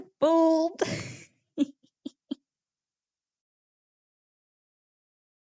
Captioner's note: more evil chuckles